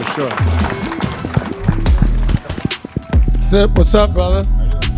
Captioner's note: audience clapping and cheering